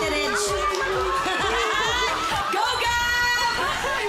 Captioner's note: laughing